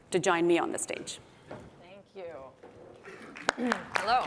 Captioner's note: applause